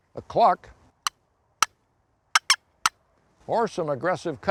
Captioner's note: box call clucking